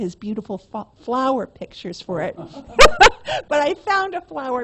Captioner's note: laughs